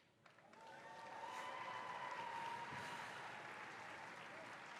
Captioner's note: cheers and applause